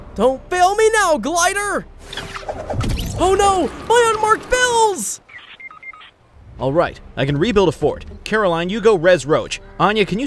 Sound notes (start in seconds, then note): 5.2 phone beeping